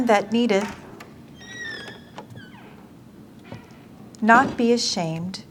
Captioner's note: door creaks open